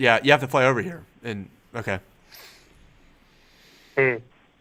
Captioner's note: none